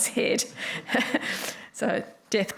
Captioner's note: laughs